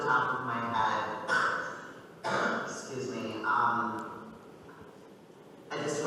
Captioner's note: coughing